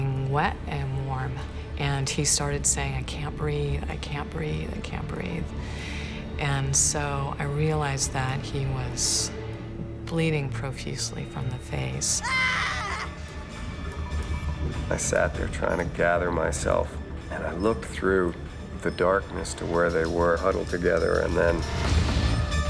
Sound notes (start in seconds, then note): 12.2 screaming